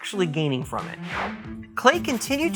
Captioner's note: swish